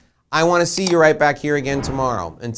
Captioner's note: mouse clicking; logo whooshing